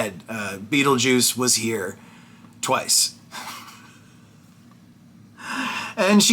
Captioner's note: laughs